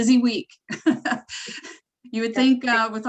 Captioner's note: laughing